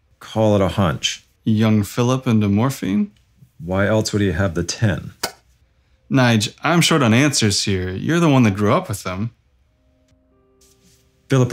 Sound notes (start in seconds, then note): 5.2 closing of tin box; 10.7 sad music